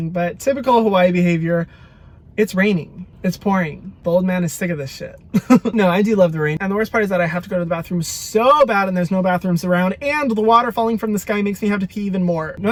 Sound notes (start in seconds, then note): 5.2 laughs